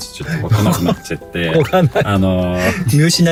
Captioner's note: laughs